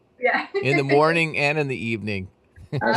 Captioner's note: laughs